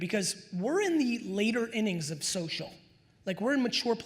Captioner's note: none